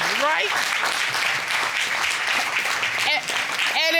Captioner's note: applause